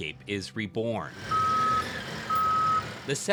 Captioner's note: machinery beeping